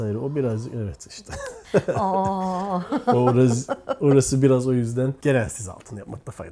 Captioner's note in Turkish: kahkaha